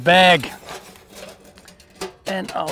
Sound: metals clinking

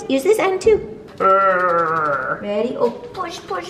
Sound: grunting

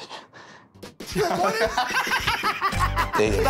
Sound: laughter

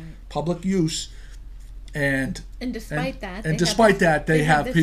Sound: voiceover

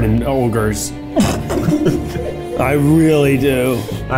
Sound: snorts

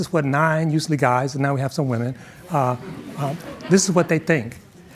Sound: audience chuckling

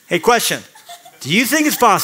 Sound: laughter

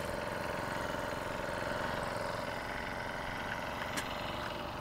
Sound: motor idles softly

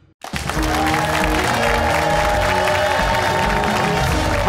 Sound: cheers and applause

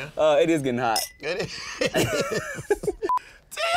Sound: both laughing

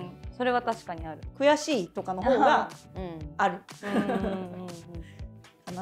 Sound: laughs

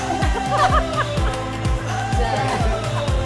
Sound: laughing

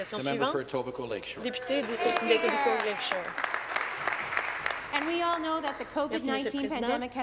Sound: some Applause

